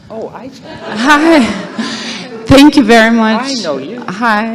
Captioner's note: laughter